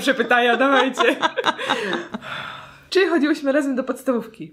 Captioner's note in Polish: śmiech